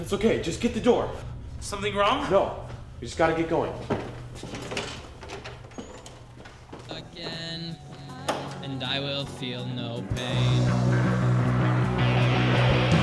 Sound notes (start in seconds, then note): 4.4 door squeaking